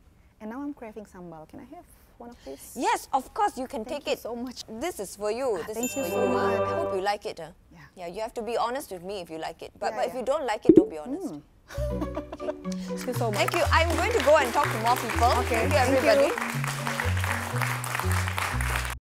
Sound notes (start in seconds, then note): 11.9 laughs; 16.1 applause